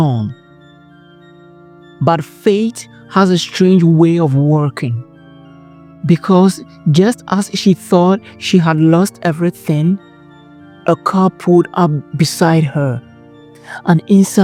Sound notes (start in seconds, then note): 2.3 narrator – Lower, Mysterious Tone